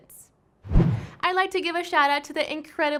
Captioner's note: woosh